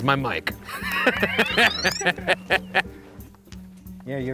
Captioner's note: laughs